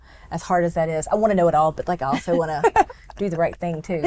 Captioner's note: laughs